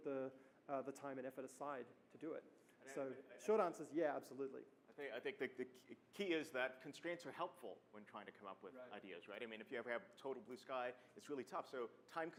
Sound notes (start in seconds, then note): 5.3 voiceover